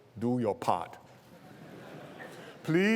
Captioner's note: laughter